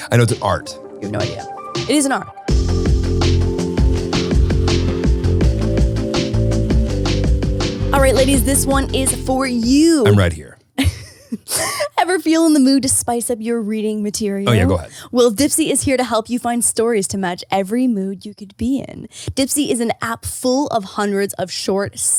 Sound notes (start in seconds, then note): 2.9 upbeat music; 10.8 laughing